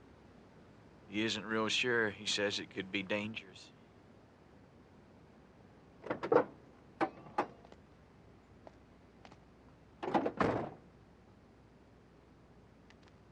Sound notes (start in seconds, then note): none